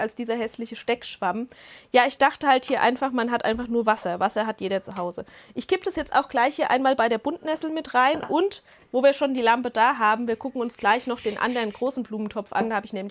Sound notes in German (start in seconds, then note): none